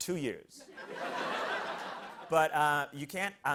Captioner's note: laughter